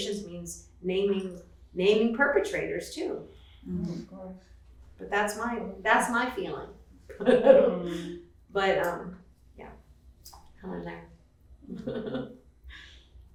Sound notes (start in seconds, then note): 7.2 laughs; 11.6 chuckling